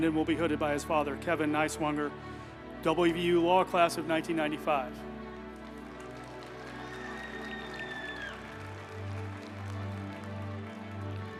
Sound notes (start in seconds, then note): 5.2 group applauding; 5.9 uplifting music